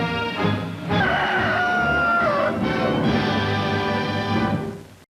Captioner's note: rooster crowing